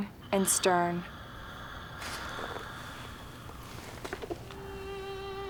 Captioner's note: Henry snoring faintly; somber violin music